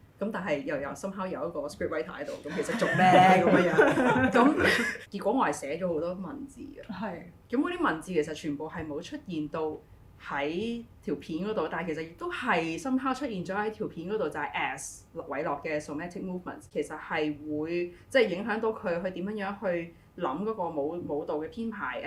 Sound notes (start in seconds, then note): 3.9 group laughter